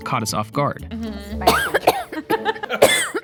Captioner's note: coughing and laughing; coughing